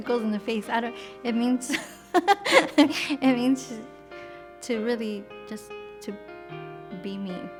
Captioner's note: laughs